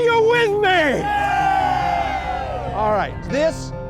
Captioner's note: crowd